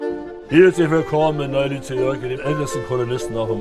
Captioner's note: Oderbruch dialect